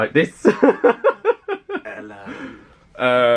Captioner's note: laughing